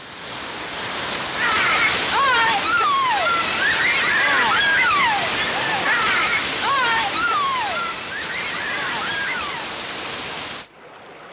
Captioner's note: children playing in rain